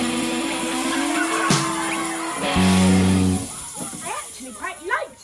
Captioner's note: children cheering